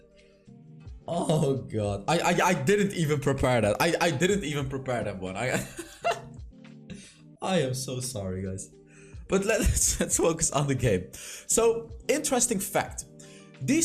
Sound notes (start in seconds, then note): 5.6 laughs